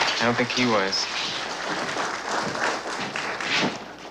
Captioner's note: applause